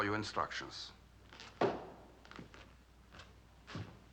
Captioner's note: clicks Heels